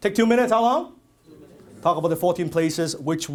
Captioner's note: crowd